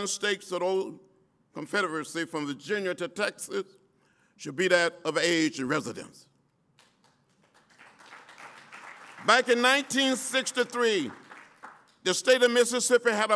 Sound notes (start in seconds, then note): 6.8 applause